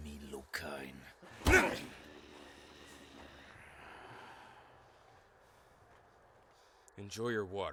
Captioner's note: punch thuds; Kaak grunts